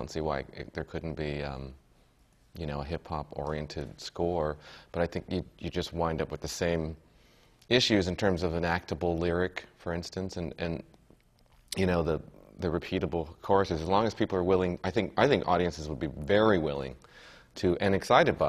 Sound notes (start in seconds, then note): none